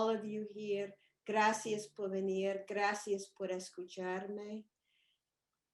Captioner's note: speaking in foreign language